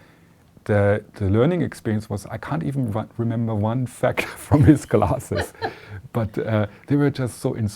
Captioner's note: laughter